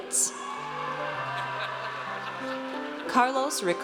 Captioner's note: audience cheers